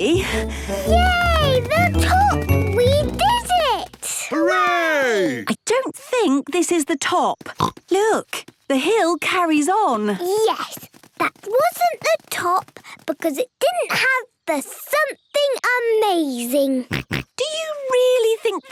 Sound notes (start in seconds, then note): 0.0 panting; 7.5 snorts; 16.9 snorts